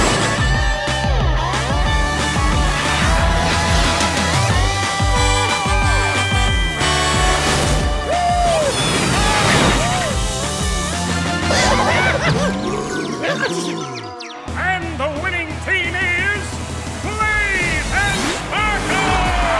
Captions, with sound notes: [truck horn] -Woo hoo! -Yippie! All right! Ah! And the winning team is... Blaze and Sparkle!